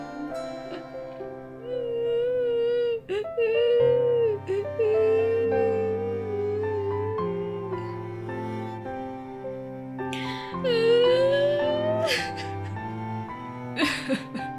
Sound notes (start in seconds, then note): 2.0 lazy cries; 10.1 continues lazy cries; 13.7 royal sobs